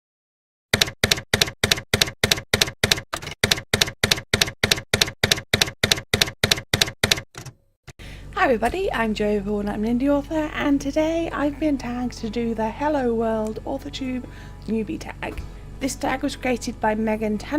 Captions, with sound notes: [TYPEWRITER KEYS CLACKING] Hi everybody! I'm Joey Paul and I'm an indie author. And today I've been tagged to do the Hello World Authortube Newbie Tag. This tag was created by Megan